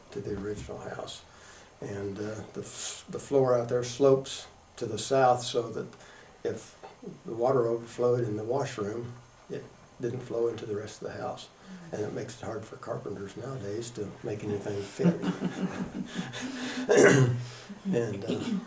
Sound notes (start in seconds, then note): 14.9 laughter